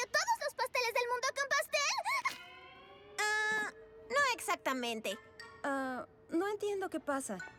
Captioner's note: none